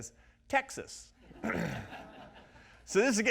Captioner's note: audience laughs